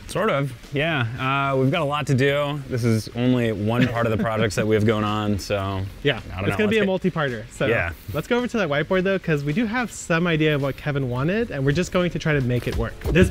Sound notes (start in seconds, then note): 3.7 chuckles